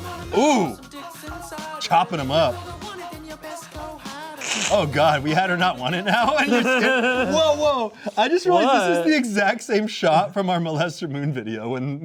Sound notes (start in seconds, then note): 6.0 snickering